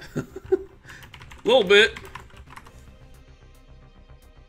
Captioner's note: laughs